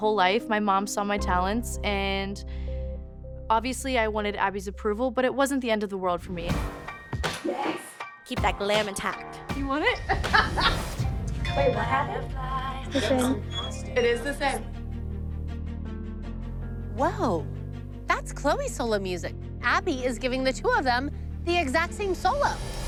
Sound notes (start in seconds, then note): 10.0 laughs; 14.9 tense music